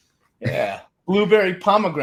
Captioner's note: chuckles